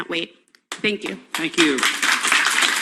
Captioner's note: clapping